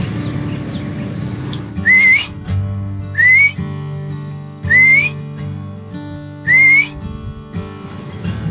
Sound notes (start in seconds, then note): 2.3 whistles